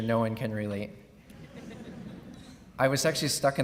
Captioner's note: laughing